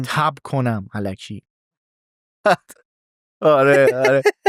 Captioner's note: laughs